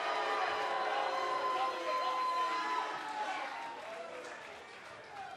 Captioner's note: cheers & boos